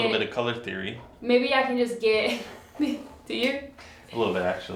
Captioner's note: laughs